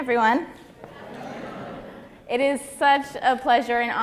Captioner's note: crowd greets